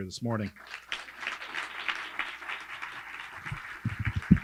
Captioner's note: audience clapping